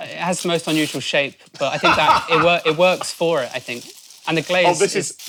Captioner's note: laughs